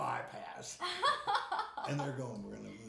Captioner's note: laughing